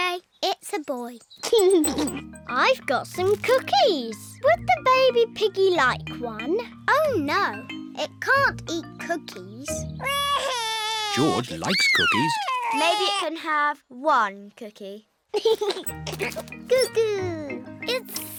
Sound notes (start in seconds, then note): 1.5 giggles; 11.0 bawls; 15.4 giggles